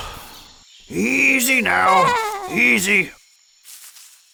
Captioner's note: sheep bleats contentedly